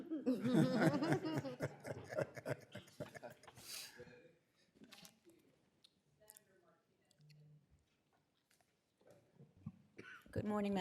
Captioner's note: laughter